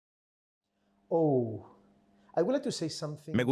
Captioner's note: Hablando idioma extranejero